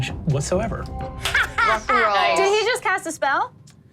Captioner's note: laughs